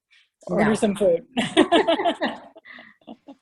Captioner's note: laughs